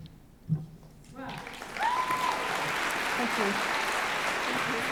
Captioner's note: cheering, applause